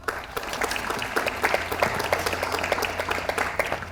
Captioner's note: audience applauds